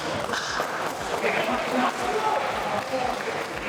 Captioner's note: applause